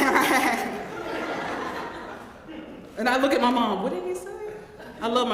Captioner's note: laugh